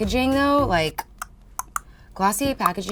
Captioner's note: clicking tongue